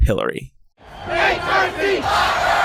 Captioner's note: crowd